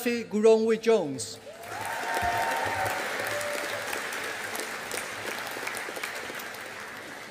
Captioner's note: audience applauding